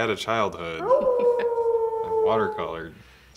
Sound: howling

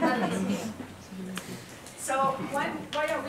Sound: laugh

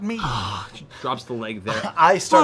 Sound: sighs

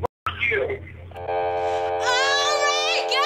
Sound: phone beeps

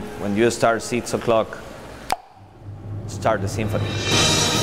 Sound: snaps fingers

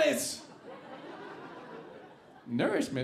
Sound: audience laughing

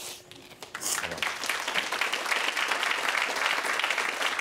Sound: audience applauding

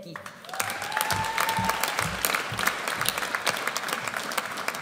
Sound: audience applauds

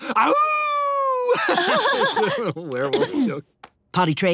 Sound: laughing

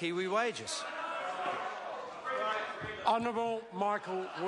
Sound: members talk loudly

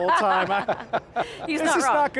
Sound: laughing

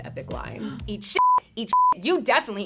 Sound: beep

